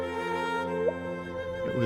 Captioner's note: chirps